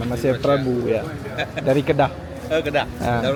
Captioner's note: laugh